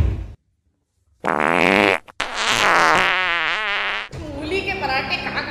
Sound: fart noises

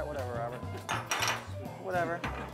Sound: clanging

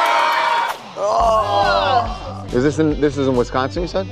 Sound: applause

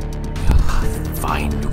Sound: grumbles

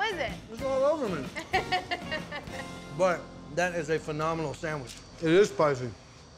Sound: giggling

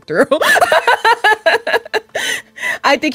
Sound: laughs

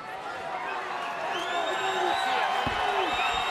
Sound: cheering

